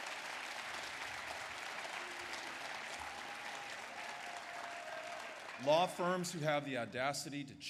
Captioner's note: applause